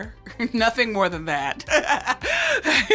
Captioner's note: laughs